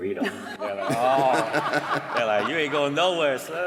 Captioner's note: laughter